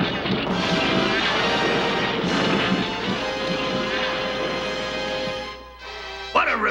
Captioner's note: magical transformation sounds